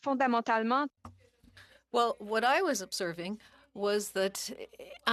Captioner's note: speaking French